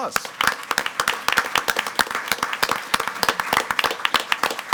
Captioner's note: all applauding